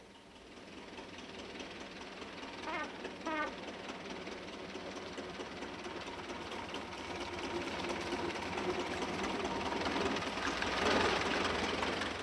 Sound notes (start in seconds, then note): 0.3 engine rumbling; 3.3 horn honking; 6.0 engine rumbling